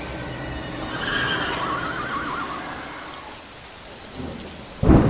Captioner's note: horses